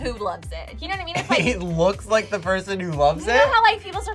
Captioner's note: laughs